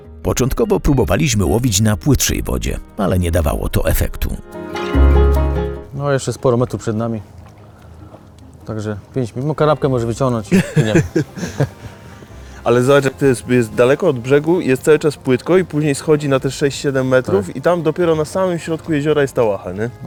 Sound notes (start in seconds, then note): 10.5 laughter